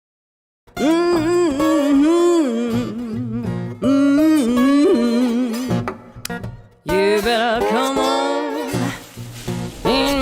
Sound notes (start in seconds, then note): 0.7 acoustic music; 1.1 woman humming